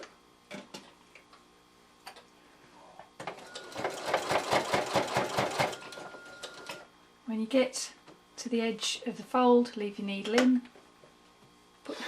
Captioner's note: sewing machine noise